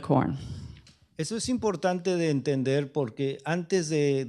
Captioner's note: speaking spanish